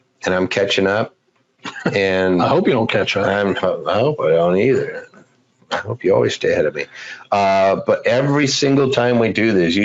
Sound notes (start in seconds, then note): 1.6 laughs